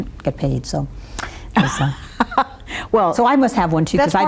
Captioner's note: laughs